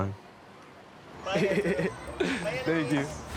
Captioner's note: laughs